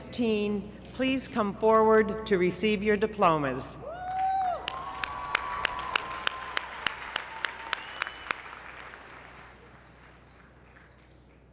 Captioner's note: applause